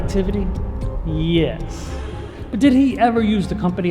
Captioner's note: audience gasping